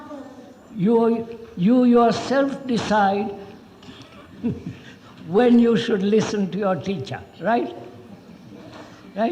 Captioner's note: laughs